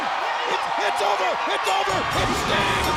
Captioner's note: bell rings